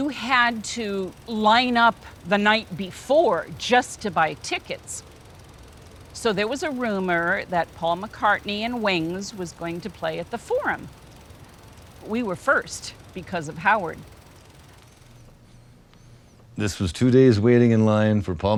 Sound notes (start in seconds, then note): none